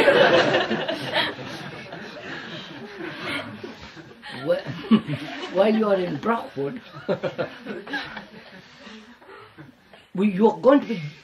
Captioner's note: laughs